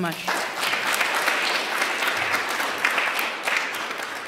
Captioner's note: applause